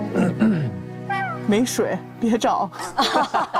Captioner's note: strategic cough